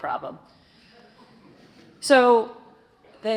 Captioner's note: audience chuckles